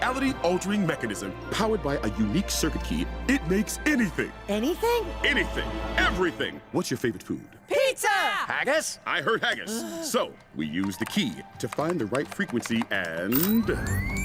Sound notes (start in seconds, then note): 9.6 both sigh